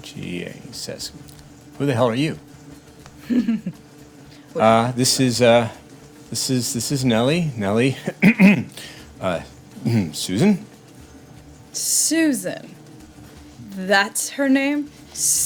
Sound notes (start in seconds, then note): 8.0 clears throat